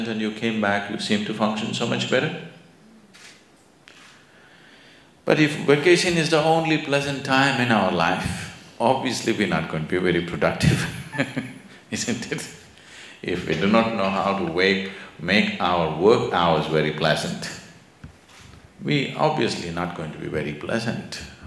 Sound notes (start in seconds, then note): 10.8 laughs